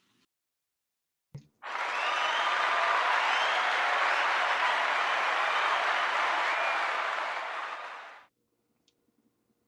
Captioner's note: cheers and Applause